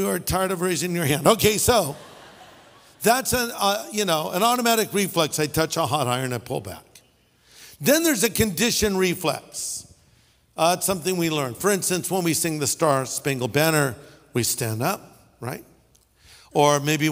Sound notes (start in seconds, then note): 1.8 laughter